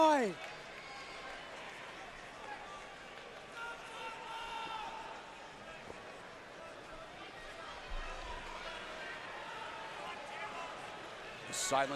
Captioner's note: crowd chatter